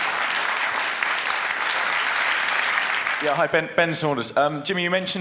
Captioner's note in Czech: potlesk